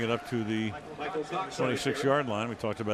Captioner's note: pa announcement